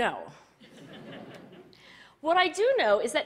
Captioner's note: Laughter; 笑聲